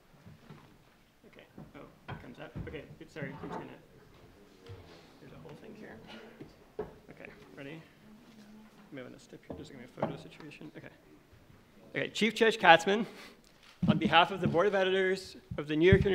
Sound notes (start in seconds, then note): 2.1 mutters